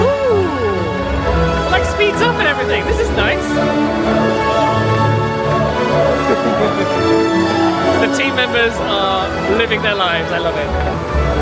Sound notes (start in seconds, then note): 3.7 team member cheering